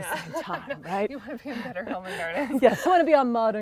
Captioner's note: laughing